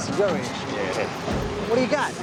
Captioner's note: chuckles